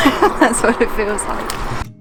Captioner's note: laughs